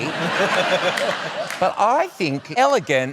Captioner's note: laughter